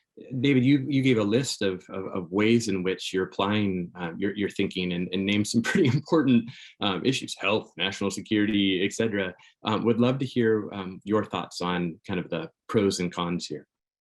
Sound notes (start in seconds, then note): 5.5 chuckles